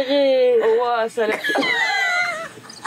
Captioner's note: laugh